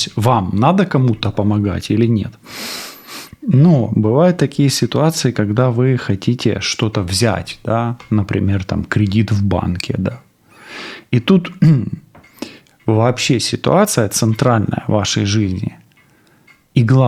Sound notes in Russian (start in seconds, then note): 3.1 фыркает; 11.5 откашливается